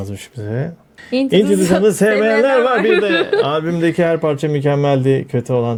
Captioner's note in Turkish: kahkaha